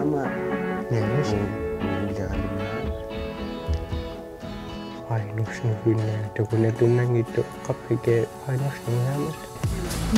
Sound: speaking alternate language

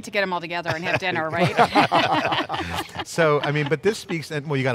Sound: laughs

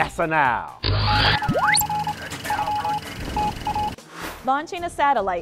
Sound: sound Effects

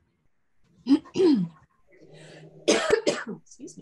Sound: coughs

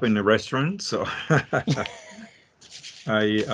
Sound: chuckles

